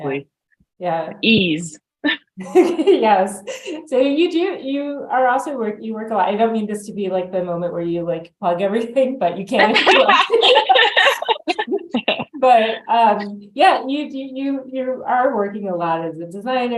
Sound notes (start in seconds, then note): 3.4 laughs; 9.6 both laugh